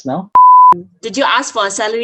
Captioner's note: beep